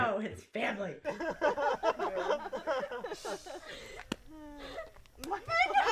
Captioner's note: laughing, sound of hackey sack being tossed